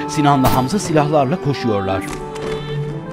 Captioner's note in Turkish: Silah sesleri